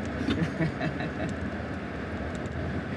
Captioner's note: chuckle